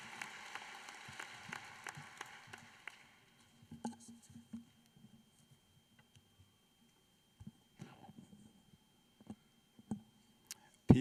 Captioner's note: applause